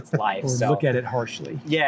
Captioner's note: laughter